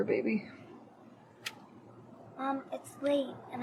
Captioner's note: lighter clicking